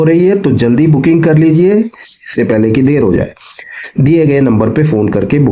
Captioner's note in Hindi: नाक से की जाने वाली आवाज़